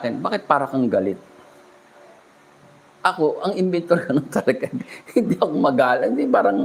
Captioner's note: laughter